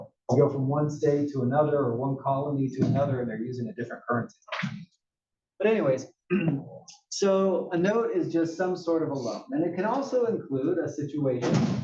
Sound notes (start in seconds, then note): 6.3 cough